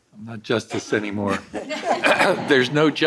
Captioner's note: all laughing